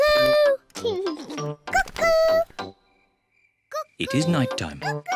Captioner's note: laughs